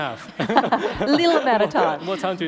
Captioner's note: laughing